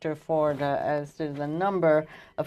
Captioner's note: speaking French